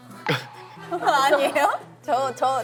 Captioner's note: just laughs